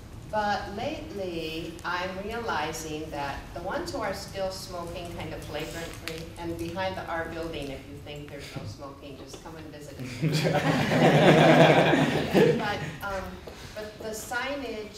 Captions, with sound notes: but lately, I'm realizing that the ones who are still smoking kind of flagrantly and behind our building if you think there's no smoking, just come and visit. [laughter] But the signage I don't think is the issue,